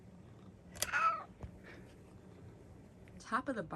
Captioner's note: meows